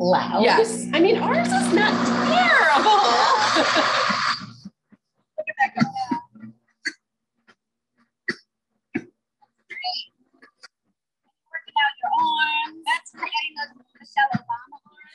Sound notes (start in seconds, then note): 3.1 blender going